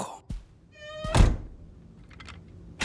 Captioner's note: door creaks